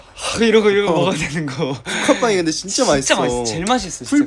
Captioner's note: laughs